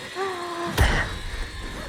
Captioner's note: thuds